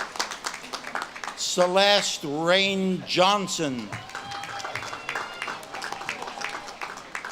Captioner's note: audience claps and cheers